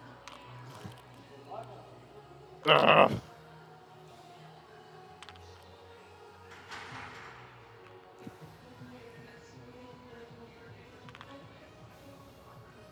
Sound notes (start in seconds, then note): 2.6 crowd murmuring